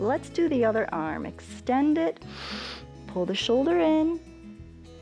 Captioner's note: inhales